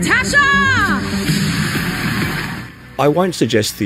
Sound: crowd applauding

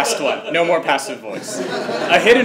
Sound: laugh

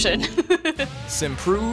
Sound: laughing

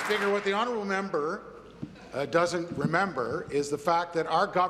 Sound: applause

